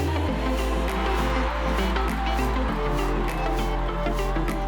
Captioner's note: crowd cheering